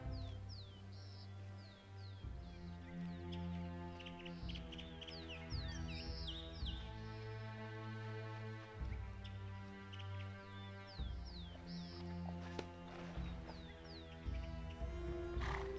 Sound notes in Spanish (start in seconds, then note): 6.8 Sound pájaros cantando